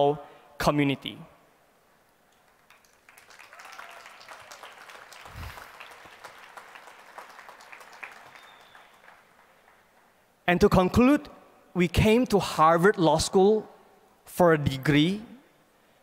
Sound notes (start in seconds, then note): 2.3 applause